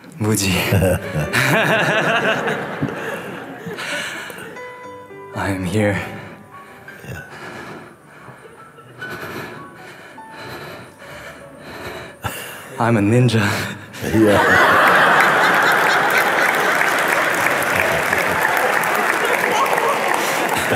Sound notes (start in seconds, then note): 1.0 laughter; 6.0 heavy breathing from running fast; 15.8 laughter and clapping